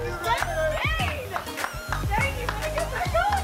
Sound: clapping

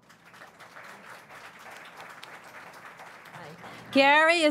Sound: audience applauds

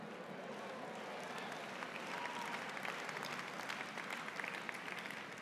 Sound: applause

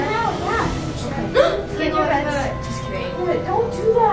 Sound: gasps

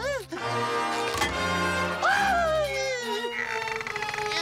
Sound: squealing

